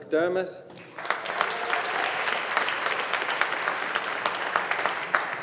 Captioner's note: audience applauding